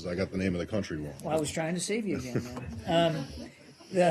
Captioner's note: laughter